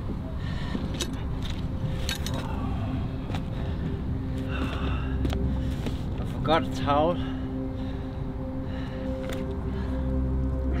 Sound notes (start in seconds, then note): 1.9 equipment clanging; 2.3 breathing heavily